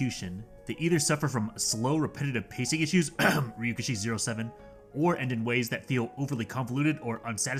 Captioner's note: ahem Ryuukishi07